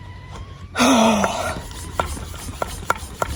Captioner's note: sighs heavily, considers life choices